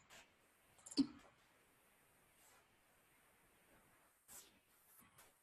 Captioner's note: mouse clicking